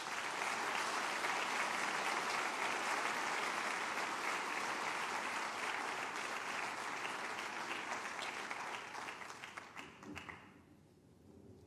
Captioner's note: applause